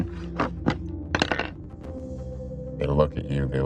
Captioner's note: dice rolling